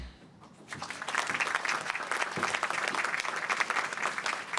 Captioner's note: applause